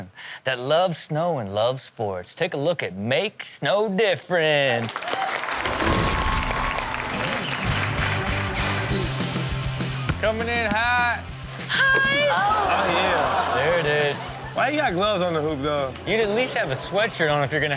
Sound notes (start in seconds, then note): 4.8 audience cheers; 8.1 rock music